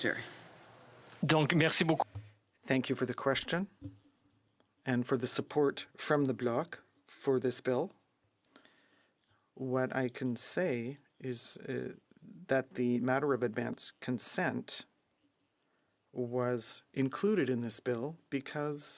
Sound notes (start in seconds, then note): 6.3 speaking french